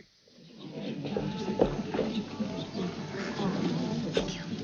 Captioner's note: people chattering